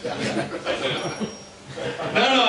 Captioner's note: audience chuckles